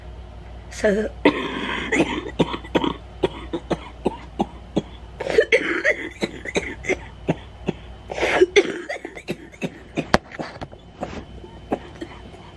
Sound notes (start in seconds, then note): 1.3 hard coughing